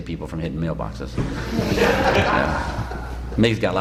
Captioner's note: laughter